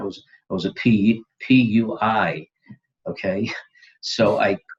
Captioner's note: laughs